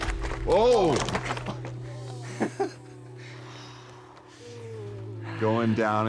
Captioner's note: laughs